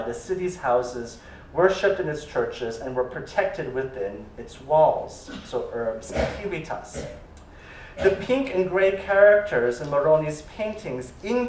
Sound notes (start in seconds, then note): 5.8 non-english speech